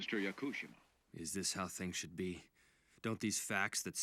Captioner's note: over comms